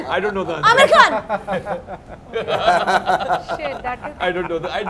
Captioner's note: laughs